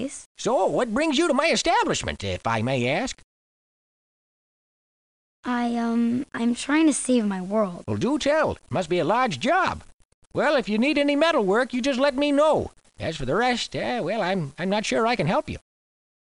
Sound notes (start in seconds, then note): none